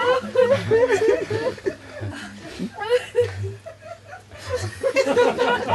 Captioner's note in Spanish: risas continúan